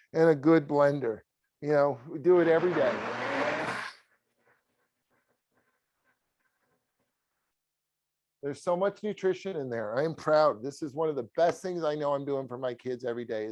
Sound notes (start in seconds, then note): 2.3 blender whirring